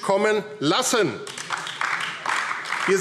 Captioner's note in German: Beifall AfD